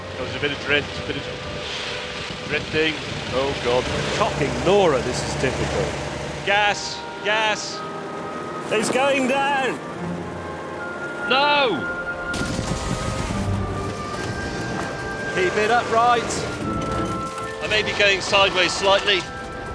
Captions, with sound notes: There was a bit of drift... Bit of... Drifting, oh, God. Cocking Nora, this is difficult. Gas, gas! It's going down! No! (CRASH) Keep it upright! I may be going sideways slightly.